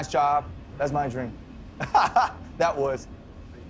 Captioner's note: laughs